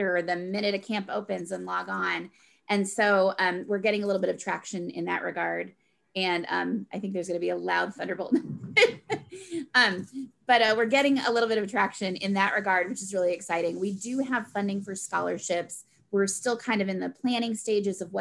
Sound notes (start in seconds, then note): 8.4 laughs